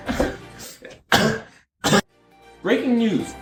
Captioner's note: laughs dramatically; cough